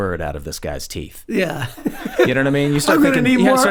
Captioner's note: laughs